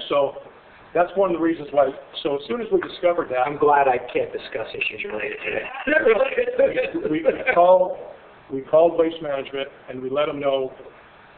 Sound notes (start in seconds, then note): 5.0 laughing